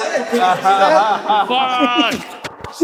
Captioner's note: crowd Laughing